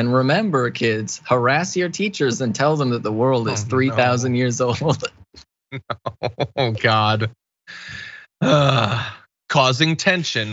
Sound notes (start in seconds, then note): 5.8 laugh